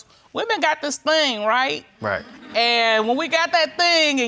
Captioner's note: audience chuckles